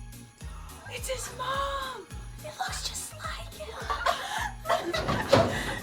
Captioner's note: laughs